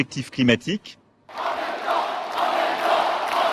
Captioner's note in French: applaudissemnets